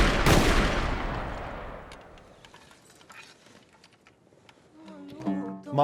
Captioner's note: gun shots